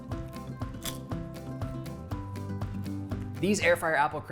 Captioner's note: bright music continues; crisps crunch